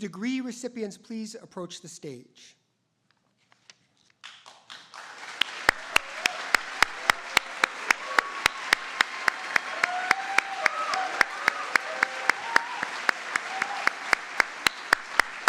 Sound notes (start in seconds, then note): 5.1 audience applauding